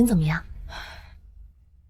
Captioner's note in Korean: 한숨